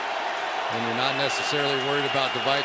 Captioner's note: cheering